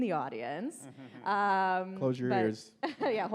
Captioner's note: audience laughs